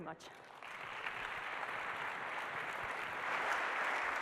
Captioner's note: applause